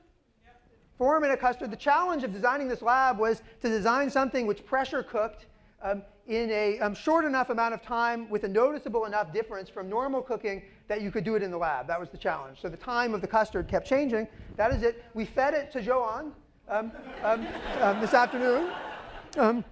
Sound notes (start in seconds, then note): 16.8 laughter